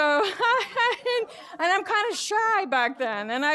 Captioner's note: laughs